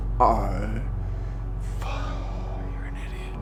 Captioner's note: sighs